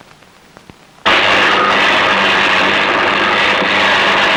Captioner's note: buzzing